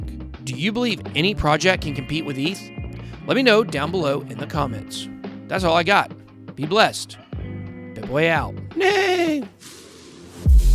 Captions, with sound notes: Do you believe any project can compete with ETH? Let me know down below in the comments. That's all I got. Be blessed. BitBoy out. [neigh]